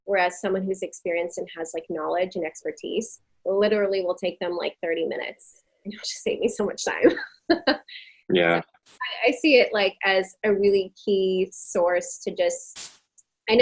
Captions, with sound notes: whereas someone who's experienced and has like knowledge and expertise literally will take them like 30 minutes. Oh she saved me so much time. (laughing) I see it like as a really key source to just,